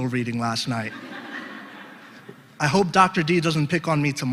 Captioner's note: laugh